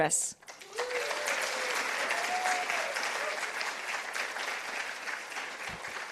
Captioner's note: participants applauding